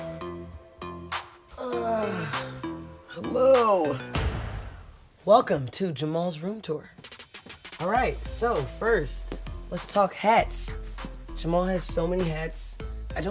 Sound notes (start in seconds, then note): 1.5 yawns